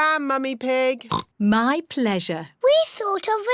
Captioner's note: oinks